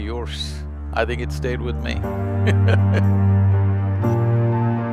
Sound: laughs

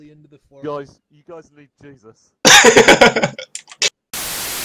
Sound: laughter

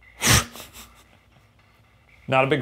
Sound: chuckling

